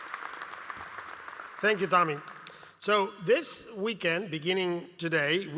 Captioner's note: applause